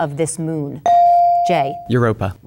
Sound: bell dinging

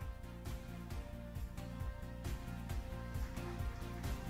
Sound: cheers and applause

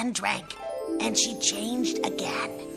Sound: magic sound

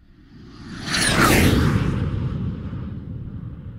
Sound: jet fly

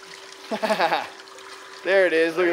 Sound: chuckles

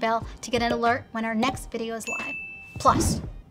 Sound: dinging; swooshing

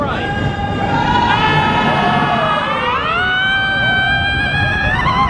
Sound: riders screaming

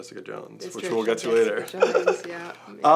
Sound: laughs

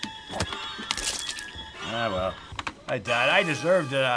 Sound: bones crunching

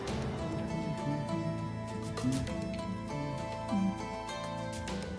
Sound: humming along

